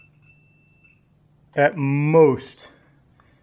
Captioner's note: beeping stops